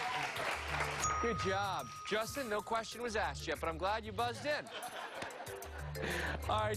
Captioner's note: applause